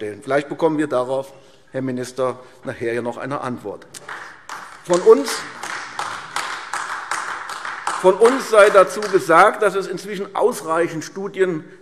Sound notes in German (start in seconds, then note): 4.0 Beifall AfD